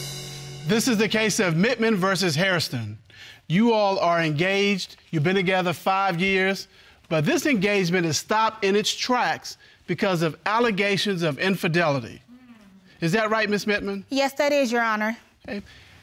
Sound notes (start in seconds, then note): none